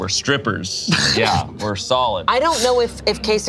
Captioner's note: laughs